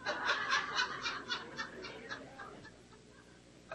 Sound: crowd laughs

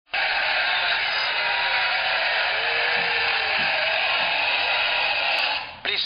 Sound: applause from laughing crowd

